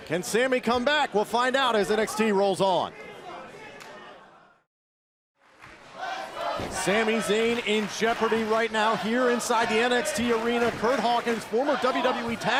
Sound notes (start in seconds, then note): 3.2 crowd cheering